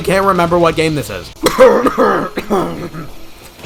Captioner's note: incessant coughing